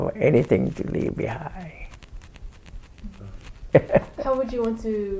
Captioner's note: laughs